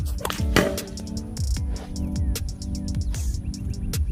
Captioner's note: loud thud